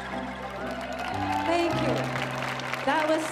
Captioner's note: audience cheering